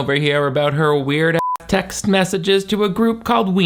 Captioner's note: beep